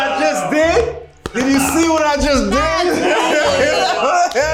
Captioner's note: laughs